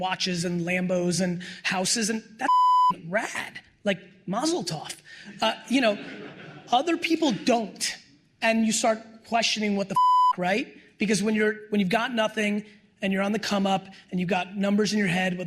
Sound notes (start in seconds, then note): 2.4 beep; 5.2 laughter; 9.9 beep